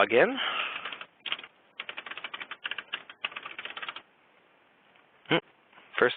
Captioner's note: typing